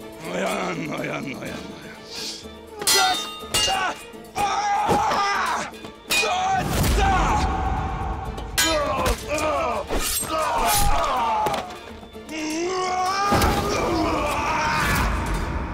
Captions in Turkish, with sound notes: Noyan! Noyan! Noyan! (Dövüş sesleri) (Kılıç sesleri)